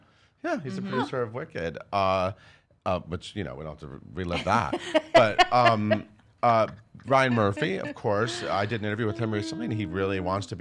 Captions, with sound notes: - Yeah, yeah, he's the producer of Wicked. Which we don't have to relive that but (laughing) Ryan Murphy of course. I did an interview with him recently and he really wants